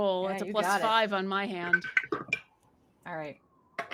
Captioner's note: dice rolls